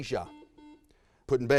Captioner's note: buzzer sounds